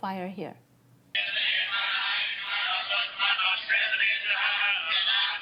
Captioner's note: chanting